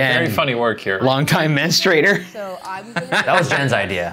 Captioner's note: laughing